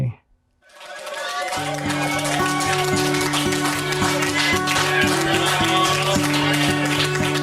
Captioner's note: group cheering; soft bright music